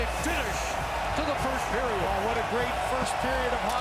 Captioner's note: horn